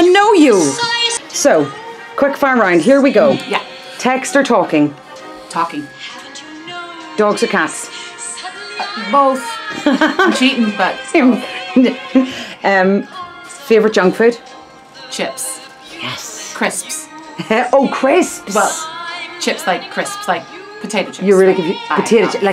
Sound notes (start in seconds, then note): 9.5 laughing